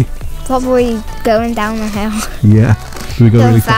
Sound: chuckles

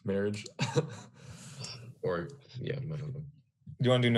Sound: chuckles

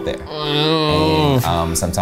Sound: groans

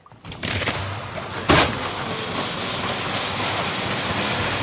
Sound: panel scraping

